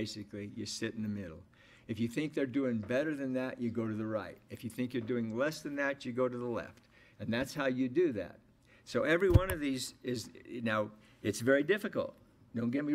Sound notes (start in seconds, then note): none